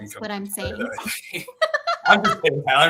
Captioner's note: laughter